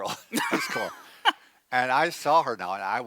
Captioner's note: laughs